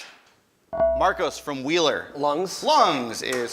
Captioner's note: ding